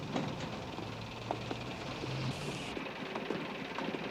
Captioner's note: bus idling